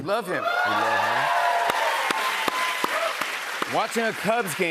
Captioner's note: cheers and applause